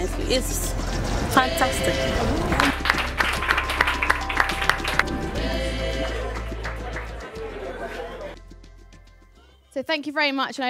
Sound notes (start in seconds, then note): 2.5 clapping; 5.1 joyous music